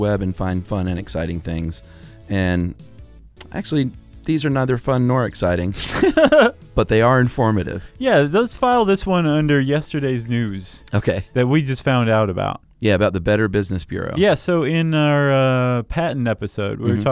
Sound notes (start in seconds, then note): 5.8 laughing